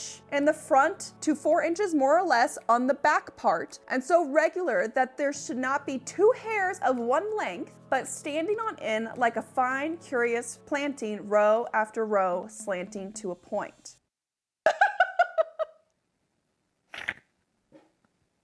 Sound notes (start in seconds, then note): 14.7 laughs